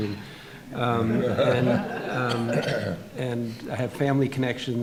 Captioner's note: audience laughing